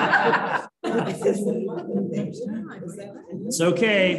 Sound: laughter

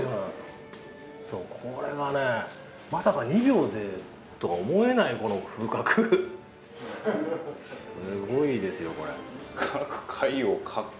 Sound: laughs

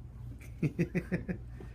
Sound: laughing

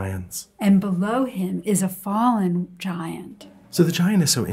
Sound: voiceover

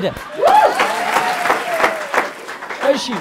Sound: scream and applause

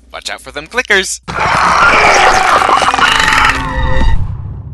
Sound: Joel Miller cries out in agony

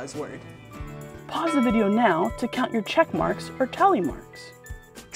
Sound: ding

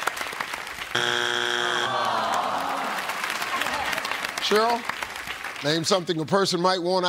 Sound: buzzer

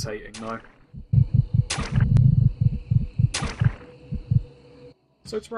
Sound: loud heartbeats

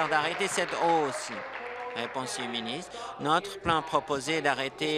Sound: applause

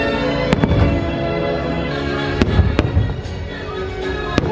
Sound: fireworks exploding

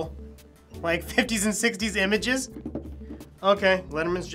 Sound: tapping table

